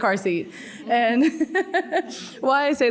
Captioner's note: laughs